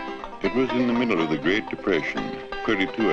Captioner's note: voiceover